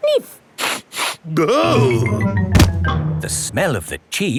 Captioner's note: sniffs and groans